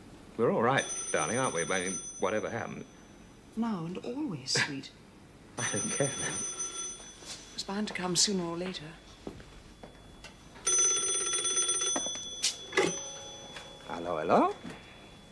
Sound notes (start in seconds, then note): 0.7 telephone rings; 6.3 telephone rings; 10.4 telephone rings